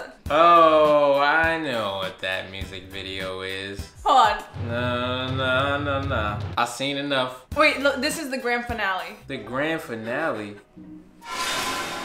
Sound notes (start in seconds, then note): none